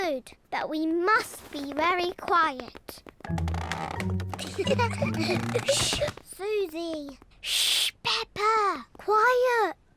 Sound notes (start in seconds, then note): 3.0 floorboards creak; 4.4 all giggle